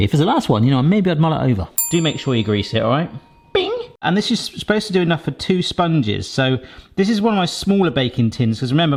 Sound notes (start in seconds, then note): 1.8 air fryer pings